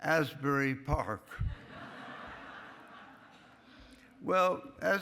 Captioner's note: laughing